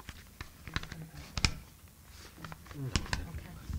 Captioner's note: murmurs